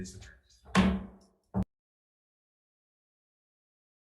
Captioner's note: gavel bangs